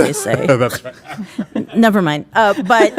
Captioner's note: laughs